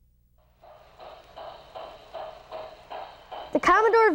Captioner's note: train chugging